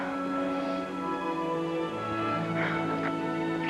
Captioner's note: laughs